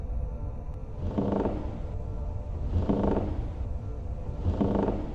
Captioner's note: floor creaking